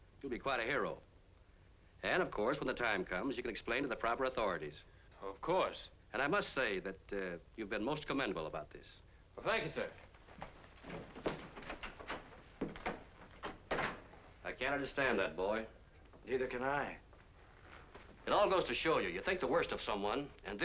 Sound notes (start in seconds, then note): 12.9 door opening and closing